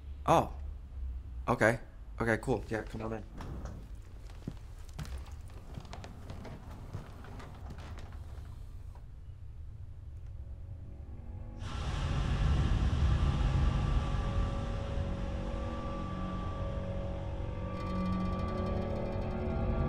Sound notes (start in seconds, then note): 11.1 pesticide sprays; 15.9 creepy music